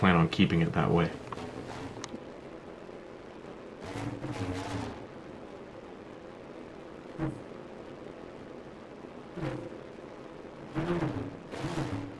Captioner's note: distorted Static